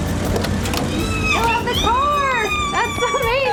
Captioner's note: brakes squeal, car door opens; ellie squealing